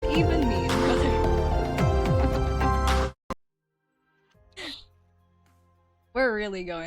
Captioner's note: scuffed chaos